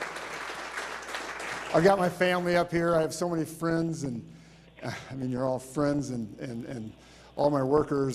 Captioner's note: applause